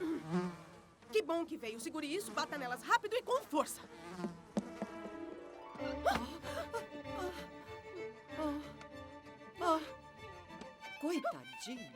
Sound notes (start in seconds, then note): 8.5 exhales